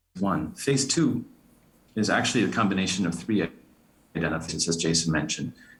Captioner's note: audio warbling